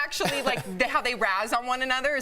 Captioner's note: laughter